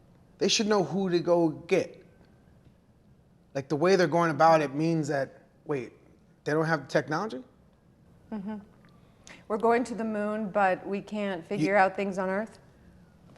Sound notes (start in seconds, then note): none